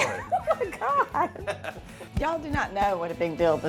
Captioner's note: laughing